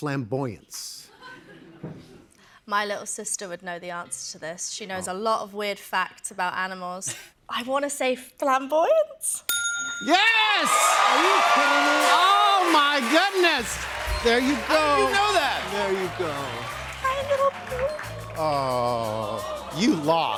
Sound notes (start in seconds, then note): 9.4 ding!; 12.6 cheers and applause